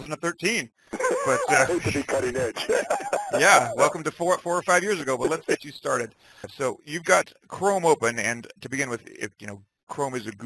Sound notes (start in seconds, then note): 0.9 laughing